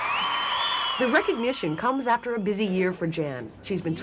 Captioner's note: cheering and applause